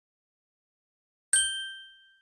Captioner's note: ding